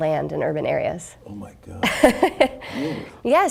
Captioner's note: laughing